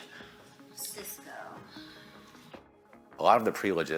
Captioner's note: sighs